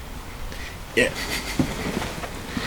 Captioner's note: chuckles